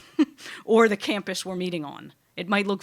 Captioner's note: laughing